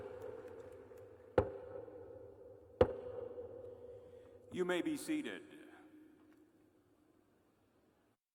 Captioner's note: applause